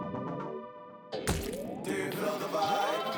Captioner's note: cake squashing